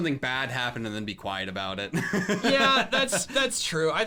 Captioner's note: laughs